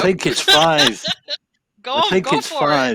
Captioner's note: laughs